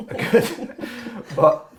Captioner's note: laughing